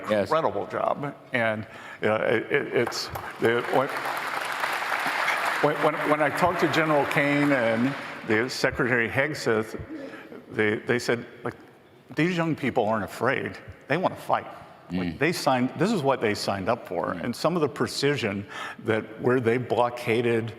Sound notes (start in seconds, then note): 8.5 applause